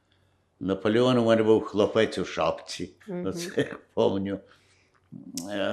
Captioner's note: ukrainian